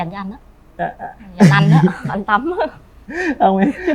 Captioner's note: laughs